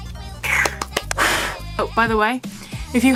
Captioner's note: excited babbling